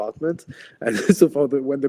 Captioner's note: laughs